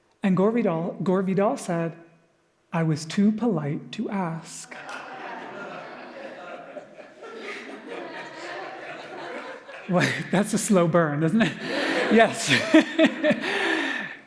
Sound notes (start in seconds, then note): 4.6 audience Laughter; 13.3 laughs